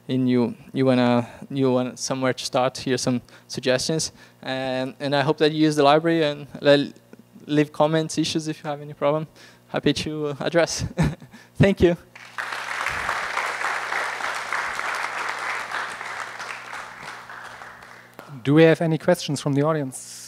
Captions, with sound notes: and you want somewhere to start, here are some suggestions. And I hope that you use the library and leave comments, issues if you have any problem. Happy to address. Thank you. [APPLAUSE] Do we have any questions from the audience?